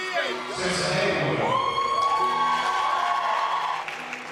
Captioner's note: cheering